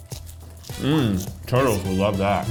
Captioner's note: crunching; humming